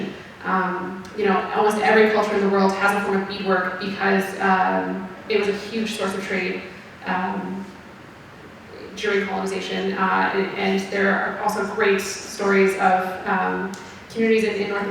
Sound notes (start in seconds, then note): none